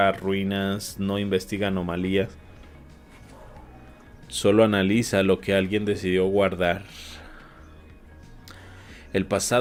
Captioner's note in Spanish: resoplido